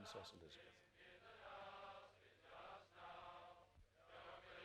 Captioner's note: crowd